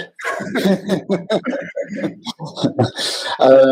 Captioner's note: laughter